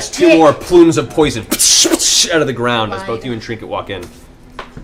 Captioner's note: pff